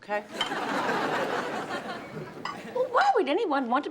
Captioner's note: audience laughs